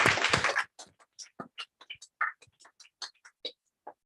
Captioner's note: applause